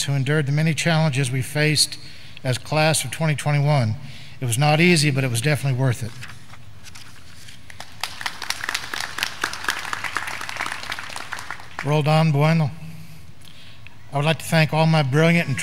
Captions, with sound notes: who endured the many challenges we faced as class of 2021. It was not easy, but it was definitely worth it. (graduands clapping) Roldan Buhaino. I would like to thank all my brilliant